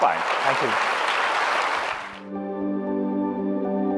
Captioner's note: audience clapping; uplifting music